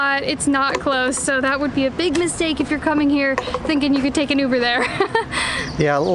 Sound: laughs

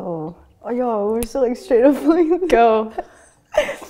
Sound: laughter

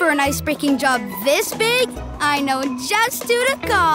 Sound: none

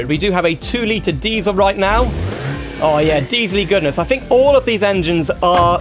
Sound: diesel Engine Revs

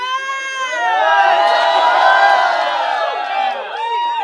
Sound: crowd cheers; crowd

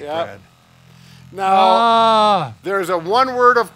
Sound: grunting

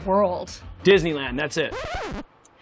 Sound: record scratching

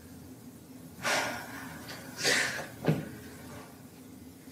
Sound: Sam sighs

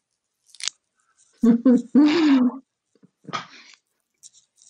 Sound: laughs

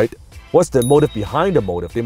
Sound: ding

